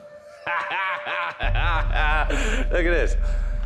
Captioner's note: Danny laughs